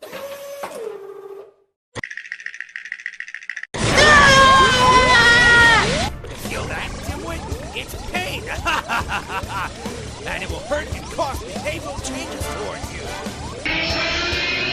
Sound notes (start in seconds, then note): 3.9 screams in pain; 9.2 schemingly laughs